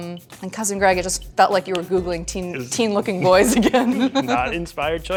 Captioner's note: laughs